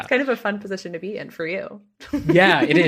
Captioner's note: laughs